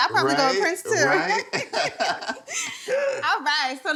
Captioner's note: both laugh